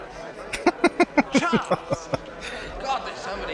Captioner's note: laughing